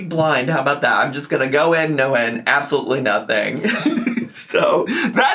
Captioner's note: laughs